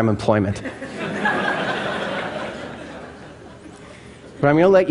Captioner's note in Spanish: Risas